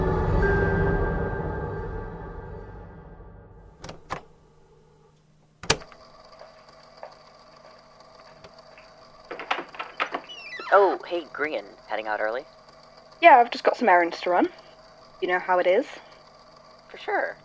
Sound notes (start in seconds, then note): 3.8 click; 6.9 footsteps; 9.2 door opening